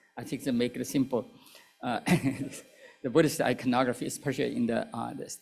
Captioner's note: laughter